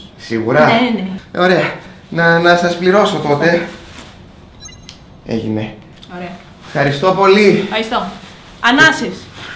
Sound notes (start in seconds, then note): 4.6 payment sound; 9.3 deep breaths